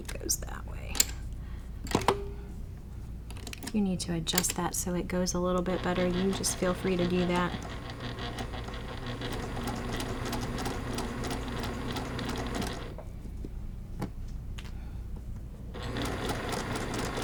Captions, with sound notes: Make it so he goes that way. If you need to adjust that so it goes a little bit better you just feel free to do that. (sewing machine churning)